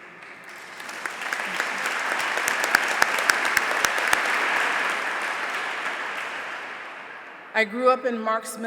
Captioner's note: applause